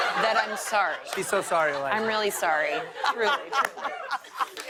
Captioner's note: laughter; cheers and applause